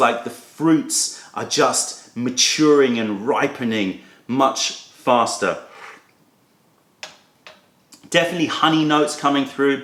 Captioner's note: sips tea